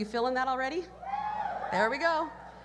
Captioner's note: cheers